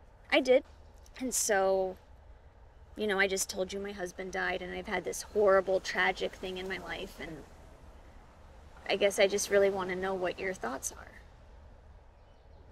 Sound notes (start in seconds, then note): none